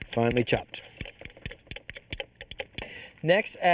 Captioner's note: clanking